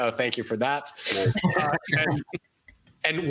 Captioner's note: laughter